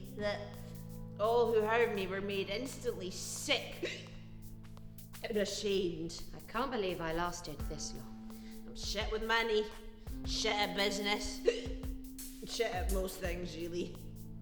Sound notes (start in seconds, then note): 4.0 hiccuping; 11.4 hiccuping